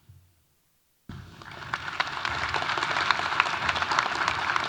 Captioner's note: audience applauding